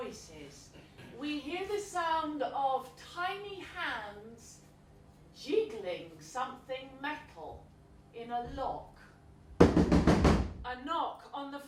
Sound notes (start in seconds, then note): 9.6 door knocking aggressively